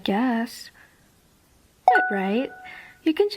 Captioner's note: pause